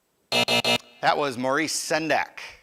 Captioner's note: buzzer